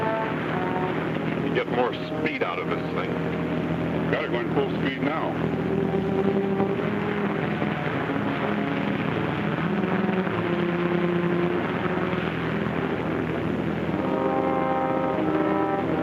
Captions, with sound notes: We could get more speed out of this thing. - We're going full speed now. (tense brooding music) (water splashes)